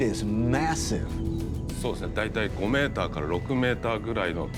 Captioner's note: speaking Japanese